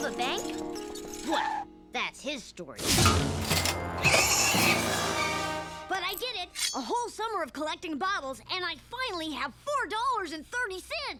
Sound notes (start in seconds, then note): 4.0 pig squeals